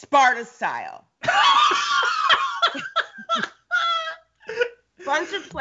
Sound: Brennan laughs

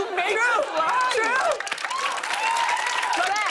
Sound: cheers and applause

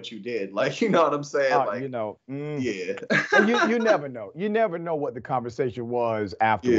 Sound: laugh

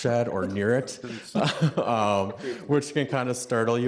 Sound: people laughing

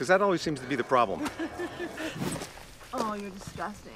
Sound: Lindsey laughs

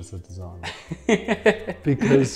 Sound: laughs

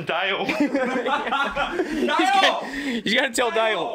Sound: all laughing

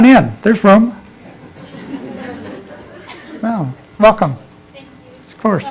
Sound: laughter

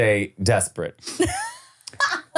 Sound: laughing

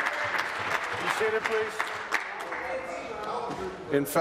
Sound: applause

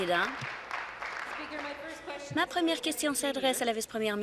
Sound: applause

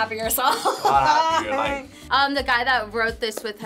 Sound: laughs

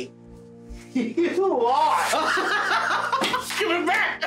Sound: laughs

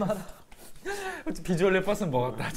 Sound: laughing

